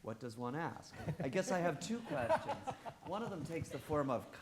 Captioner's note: all laughing